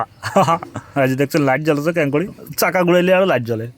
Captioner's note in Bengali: সশব্দ হাসি